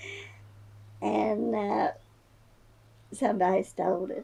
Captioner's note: laughs